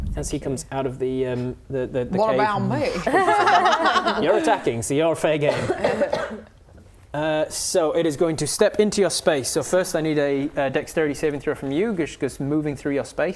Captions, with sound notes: As he comes out of the the cave - What about me? *laughing* You're attacking so you're fair game So it is going to step into your space So first I need a dexterity saving throw from you because moving through your space